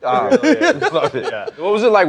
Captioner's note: laughter